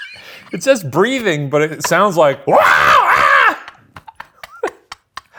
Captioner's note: screams